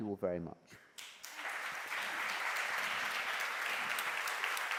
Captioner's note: applause